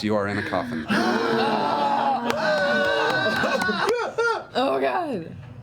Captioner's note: yelling